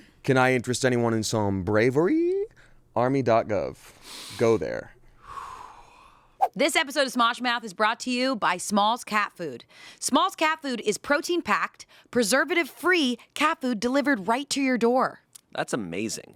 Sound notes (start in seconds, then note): 5.2 exhales